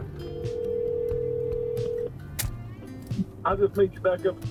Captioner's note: phone ringing